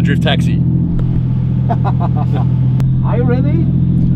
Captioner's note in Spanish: risa